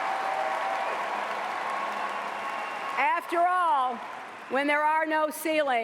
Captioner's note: cheers and applause